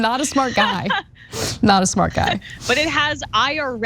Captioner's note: laugh